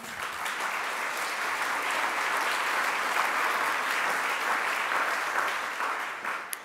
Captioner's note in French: Applaudissements